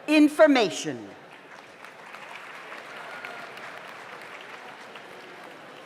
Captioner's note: audience applauds